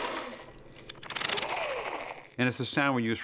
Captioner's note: whirring softly